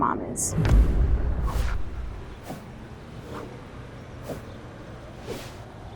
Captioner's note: dramatic music; swooshing sound